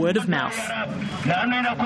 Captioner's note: calling out over loudspeaker from car